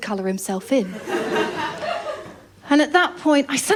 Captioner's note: laughter